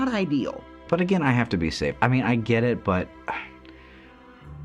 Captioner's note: sighs